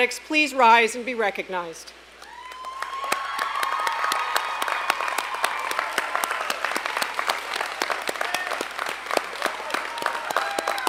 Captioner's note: applause